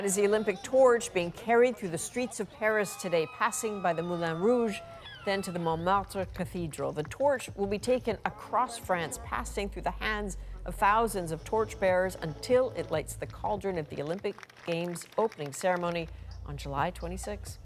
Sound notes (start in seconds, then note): 5.7 cheers and Applause